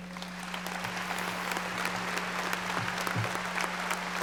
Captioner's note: audience applauding